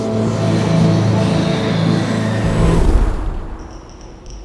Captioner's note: screeching